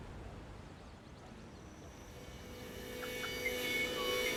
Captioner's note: birds chirping; soft whistling; dissonant instrumental music